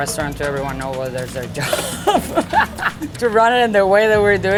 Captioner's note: laughs